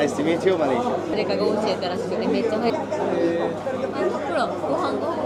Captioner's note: speaking Japanese